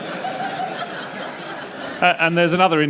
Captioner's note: laughter